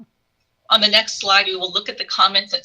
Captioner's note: chuckles